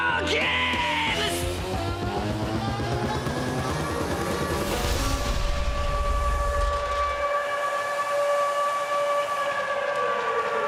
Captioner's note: air raid sirens